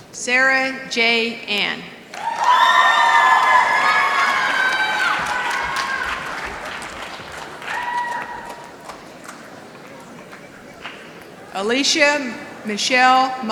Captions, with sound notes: Sarah J. Anne [ Applause ] j n Alicia Michelle Mowrie.